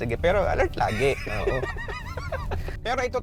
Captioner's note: laughs